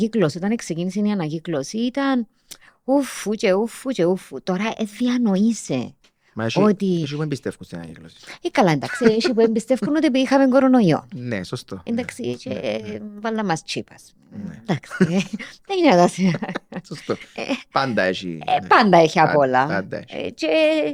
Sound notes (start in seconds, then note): 15.8 he laughs